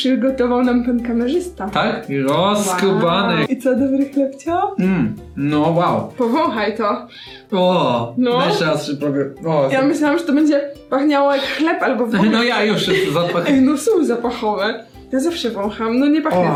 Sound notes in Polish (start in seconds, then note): 12.7 śmieje się